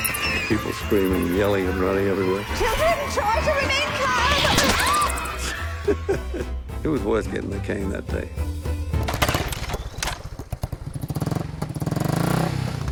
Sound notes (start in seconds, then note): 5.3 chuckling; 9.0 engine revving